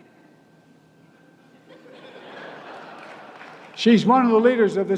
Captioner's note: laughter and applause